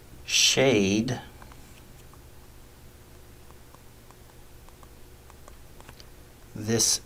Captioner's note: writing Sounds